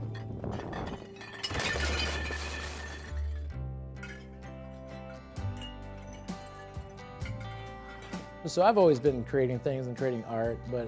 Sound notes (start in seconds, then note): 1.7 glass rattling; 4.3 gentle music